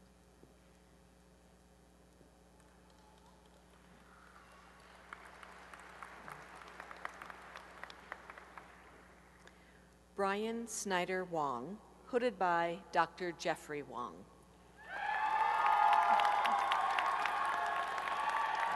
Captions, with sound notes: [applause] Brian Snyder Wong, hooded by Dr. Jeffrey Wong. [applause and cheering]